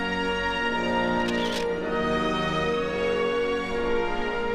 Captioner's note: camera flashing